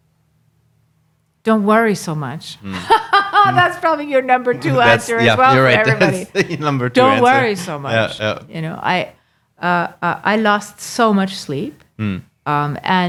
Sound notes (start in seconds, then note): 2.6 laughing